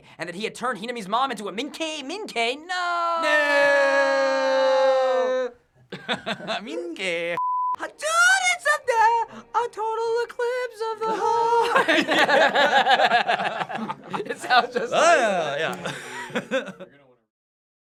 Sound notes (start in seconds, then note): 5.9 laughter; 7.4 beep; 7.7 singing theme song; 11.1 both crack up; 16.5 laughs